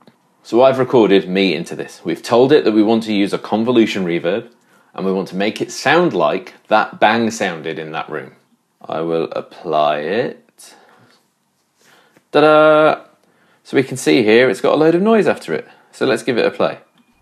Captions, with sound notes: So I've recorded me into this, we've told it that we want to use a convolution reverb, and we want to make it sound like that bang sounded in that room. I will apply it... (melodiously) Da-da! So we can see here its got a load of noise after it! So let's give it a play.